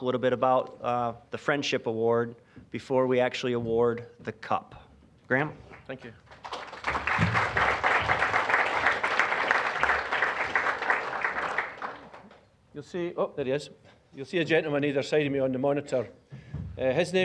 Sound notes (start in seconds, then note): 5.6 applause